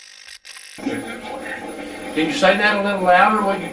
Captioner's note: static fizzing; static playback transmitting